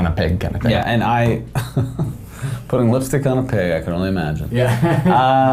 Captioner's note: laughs